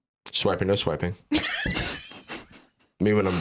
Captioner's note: laughs